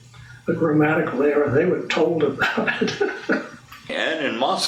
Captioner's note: laughs